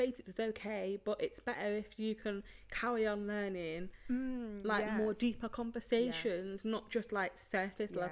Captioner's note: hmmmm